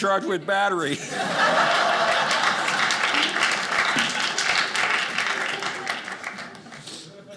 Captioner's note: audience laughing